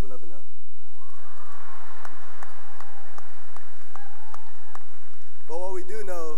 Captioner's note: cheering and applause